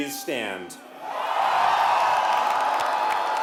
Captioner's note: cheering and applause